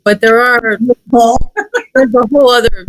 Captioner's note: laughs